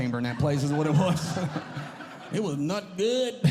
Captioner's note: audience Laughing